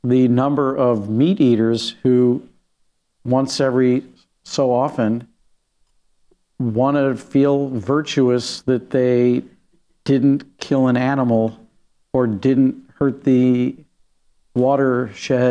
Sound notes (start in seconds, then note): none